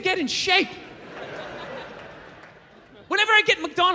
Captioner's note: crowd laughs